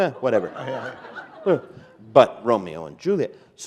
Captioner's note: laughter